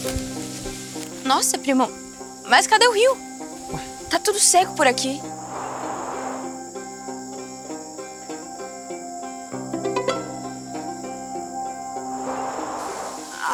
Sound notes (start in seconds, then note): 6.3 forest noises; 9.6 notification